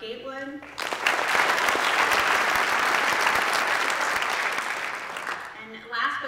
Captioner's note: applause